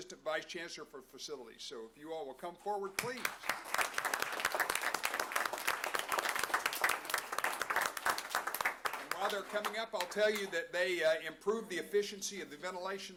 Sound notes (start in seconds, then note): 3.0 applause